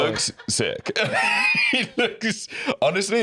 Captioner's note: laughs